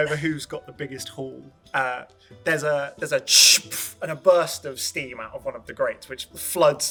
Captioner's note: steam sound